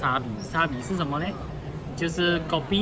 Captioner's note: hokkien dialect